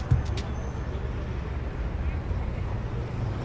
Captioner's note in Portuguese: sons de carros